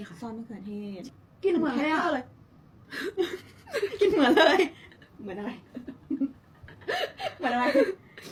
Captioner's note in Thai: เสียงหัวเราะ